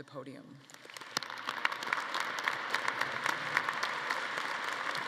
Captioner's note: audience applauding